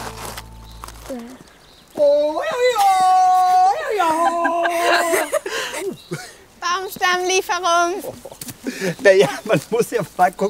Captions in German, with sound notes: Uah. (Aufgeweckte Rufe) Baumstammlieferung. Na ja, man muss ja mal gucken,